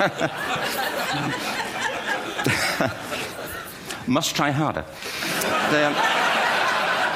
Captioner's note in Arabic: ضحك